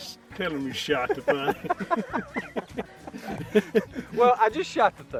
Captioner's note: laughs